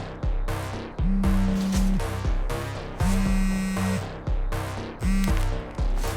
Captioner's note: tense music; cell phone vibrating